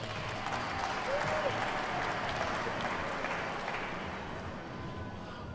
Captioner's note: attendees cheer and clap